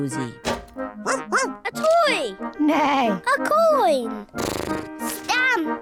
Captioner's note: barks; snorts; neighs